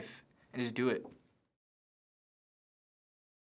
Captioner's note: silence